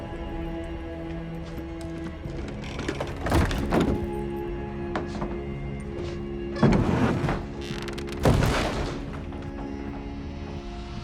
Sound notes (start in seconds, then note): 0.7 wood creaking; 1.5 eerie music; 8.4 lid thuds